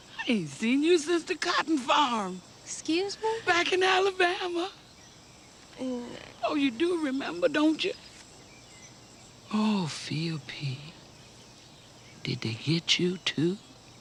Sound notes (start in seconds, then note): 5.9 Gina stammers